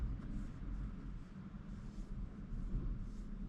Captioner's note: low heating and cooling